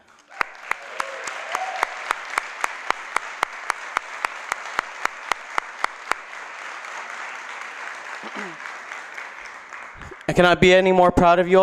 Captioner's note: applause